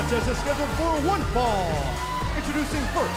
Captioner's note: bell ringing